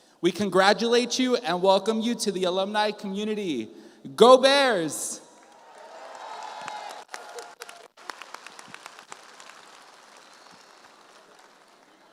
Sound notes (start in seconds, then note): 5.4 audience applauds